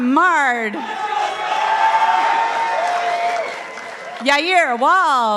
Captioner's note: participants applauding